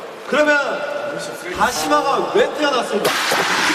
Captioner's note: rubbing